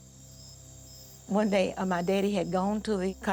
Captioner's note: insects chirping